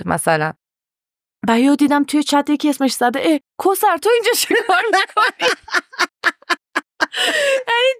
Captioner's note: laughs